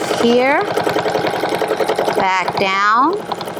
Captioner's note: machine whirring